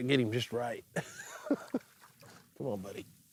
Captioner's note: laughs